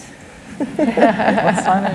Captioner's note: laughter